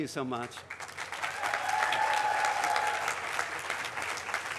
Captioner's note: cheering, applause